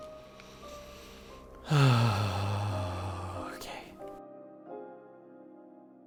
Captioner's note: sigh of relief